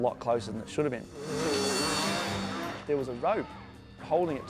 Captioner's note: tense dramatic music; motor revving